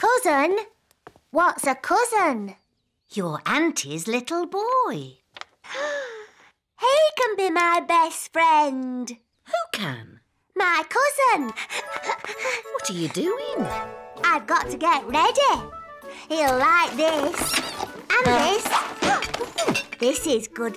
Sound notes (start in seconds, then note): 6.4 gasps; 11.6 giggles; 18.2 toy squeaks